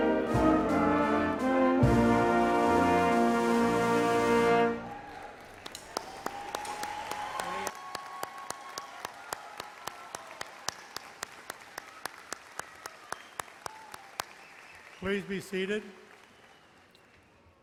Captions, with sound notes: (audience applauds) - Please be seated.